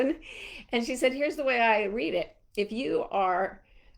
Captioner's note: none